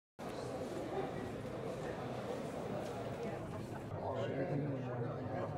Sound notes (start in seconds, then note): 0.2 crowd chatter